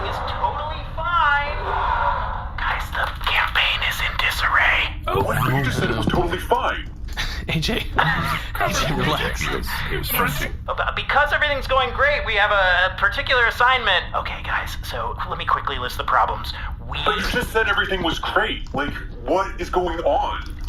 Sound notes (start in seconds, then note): 1.6 whispering; 11.2 shouting down his hallway; 14.1 whispering